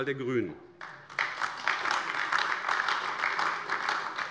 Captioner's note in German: Beifall AfD